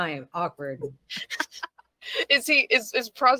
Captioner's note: laughing